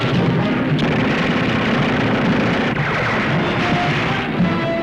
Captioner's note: gunfire